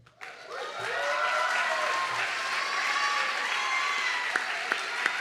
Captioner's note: audience clapping and cheering